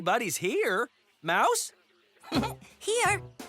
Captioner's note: giggles